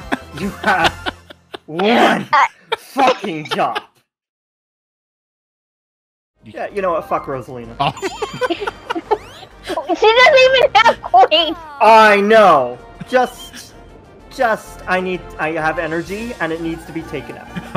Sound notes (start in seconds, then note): 7.8 laughing; 17.5 chuckles